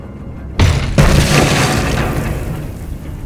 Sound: loud crash

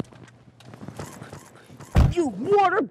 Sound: door slams

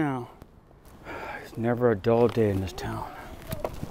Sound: sighs

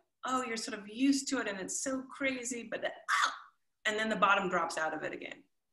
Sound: shrieks

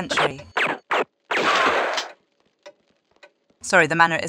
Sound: bam

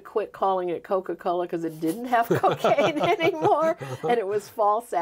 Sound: both laughing

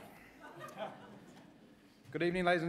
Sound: laughter

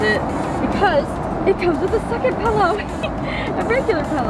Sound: laughs

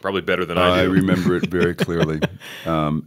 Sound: laughter

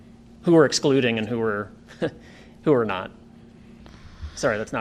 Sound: laughter

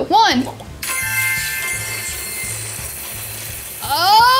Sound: bright chiming

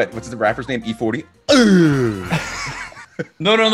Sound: laugh

